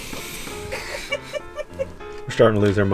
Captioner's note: laughing